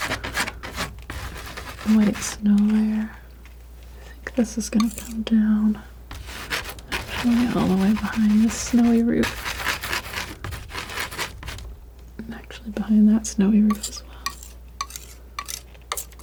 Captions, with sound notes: white snow layer (scratching) This is gonna come down all the way behind the snowy roof (scratching) and actually behind that snowy roof as well